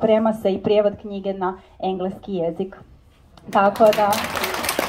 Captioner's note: applause…